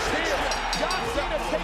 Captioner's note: bell ringing